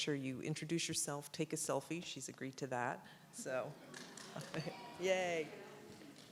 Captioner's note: audience cheers and claps